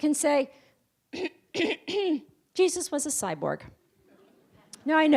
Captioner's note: clears throat